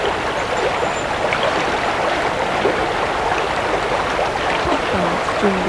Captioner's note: running water continues